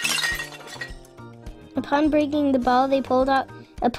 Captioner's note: bottle breaking